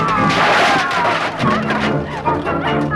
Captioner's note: men screaming; debris crashing; Hundra laughing